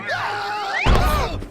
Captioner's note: screams, groans